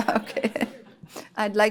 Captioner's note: laughter